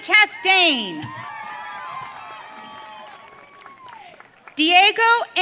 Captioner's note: audience cheering